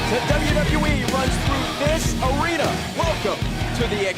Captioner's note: crowd cheering